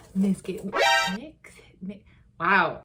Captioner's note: alarming sound